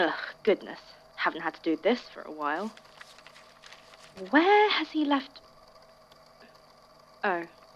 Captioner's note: papers being moved aside